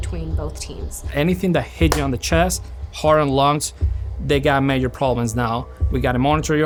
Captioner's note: claps